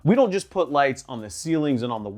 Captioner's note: none